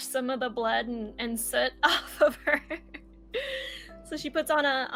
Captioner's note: laughs